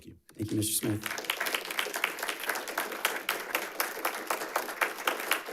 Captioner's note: audience applauds